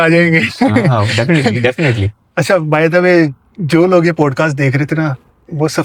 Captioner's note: laughs